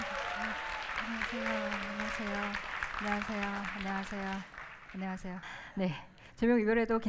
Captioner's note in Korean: 환호와 박수; 환호와 박수